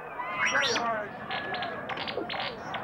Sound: beep Beep

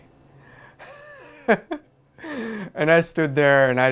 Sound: laughter

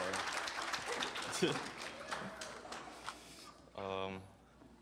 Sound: applause; laughs

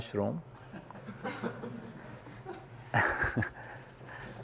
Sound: laugh

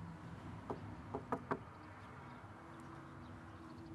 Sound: knocking

